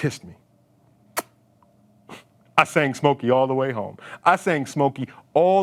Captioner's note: lips smacking